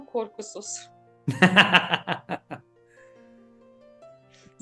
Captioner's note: laugh